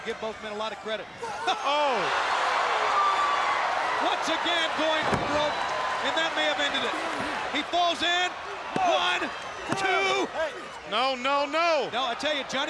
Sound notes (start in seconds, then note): 2.7 crowd cheering